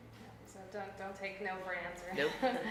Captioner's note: laughs